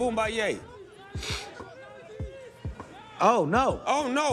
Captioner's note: cheering